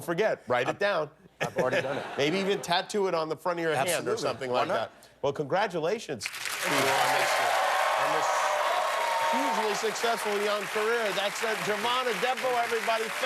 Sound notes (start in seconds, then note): 3.7 cheers and applause